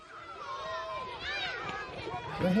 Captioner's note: children playing